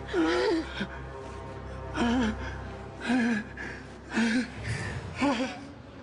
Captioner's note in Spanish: Sollozos